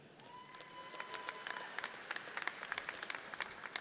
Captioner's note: audience cheers